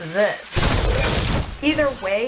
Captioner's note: explosion booming